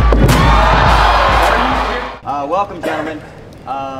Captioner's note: crowd cheering